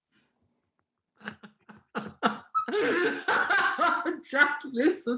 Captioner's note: Helmer laughing